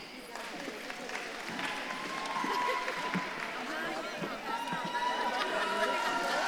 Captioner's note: audience claps and cheers